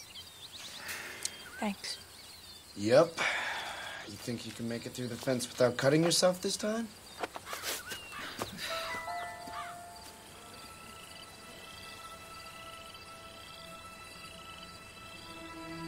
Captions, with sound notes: Thanks. - Yup. You think you can make it through the fence without cutting yourself this time? (Caitlin huffs) (somber music)